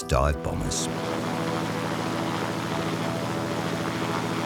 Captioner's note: engines idling